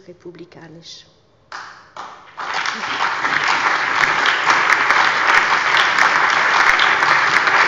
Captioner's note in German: Allgemeiner Beifall